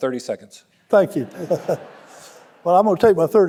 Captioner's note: audience laughing; laughing